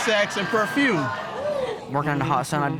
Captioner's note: audience laughing